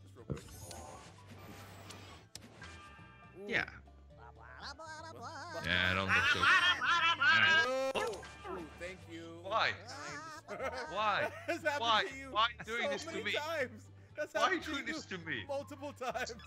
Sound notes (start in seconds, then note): 9.8 laugh